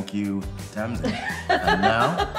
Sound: laughs

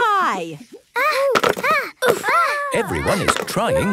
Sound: all grunting

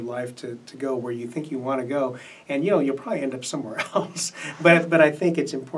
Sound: laughs

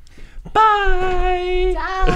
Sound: laughing

